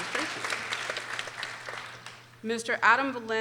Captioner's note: people applauding